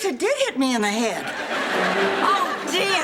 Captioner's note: audience laughing